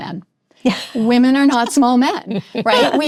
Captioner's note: laughing